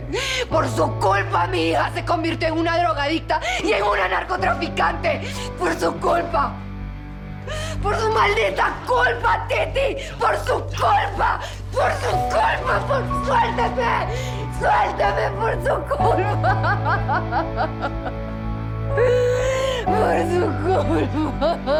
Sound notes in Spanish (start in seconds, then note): 16.1 Sollozos